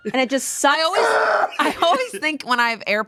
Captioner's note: yells